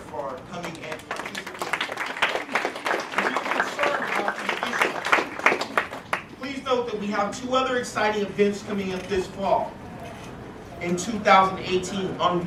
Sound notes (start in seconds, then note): 0.0 applause